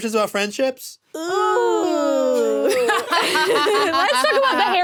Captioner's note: laughs